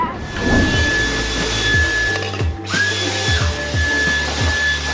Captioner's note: vacuum whirring